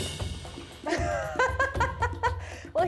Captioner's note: laughs